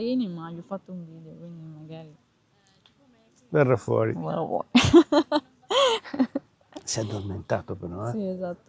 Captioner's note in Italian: risate